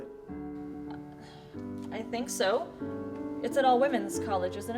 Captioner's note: stammers